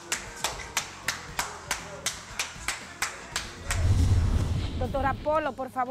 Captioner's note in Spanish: Aplauso